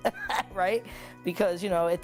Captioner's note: laughs